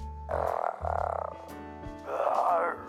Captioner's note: Dad growling; giggling